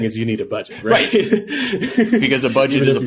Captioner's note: laughing